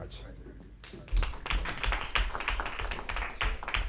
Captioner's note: applause